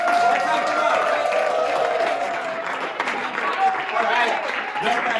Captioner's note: cheering, applause